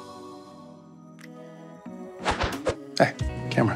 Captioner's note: relaxed music; air whooshing